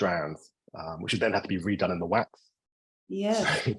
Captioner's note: chuckling